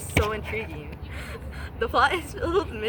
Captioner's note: breathing noises